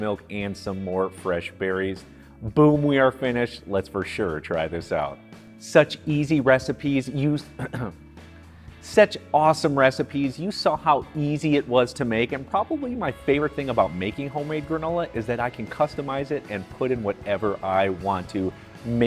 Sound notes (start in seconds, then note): 7.4 coughs